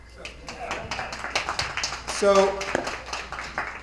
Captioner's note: attendees applauding